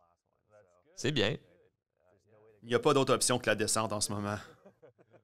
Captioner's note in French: rires